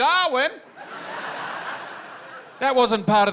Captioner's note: laughter